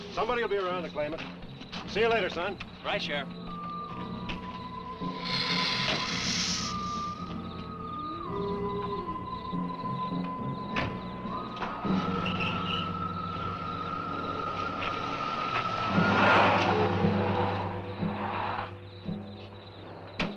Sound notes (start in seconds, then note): 5.0 lizard hissing; 11.8 engine rumbles; 12.1 engine cranks